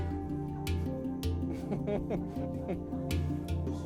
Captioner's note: chuckles